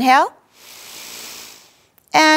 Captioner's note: inhaling